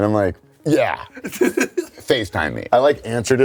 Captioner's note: laughs